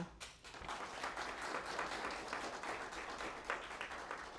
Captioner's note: applause